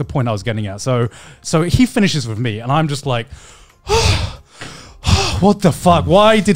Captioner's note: gasps